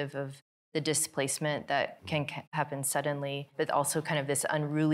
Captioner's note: none